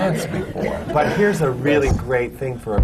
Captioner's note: laughter